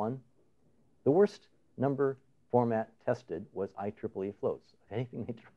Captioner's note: laughing